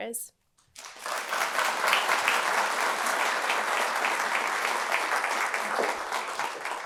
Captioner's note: applause